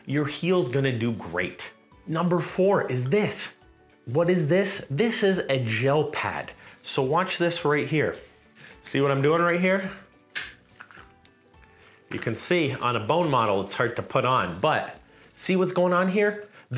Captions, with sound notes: Your heel's gonna do great. Number four is this. What is this? This is a gel pad. So watch this right here. See what I'm doing right here? (pad snaps) You can see, on a bone model, it's hard to put on, but, see what's going on here?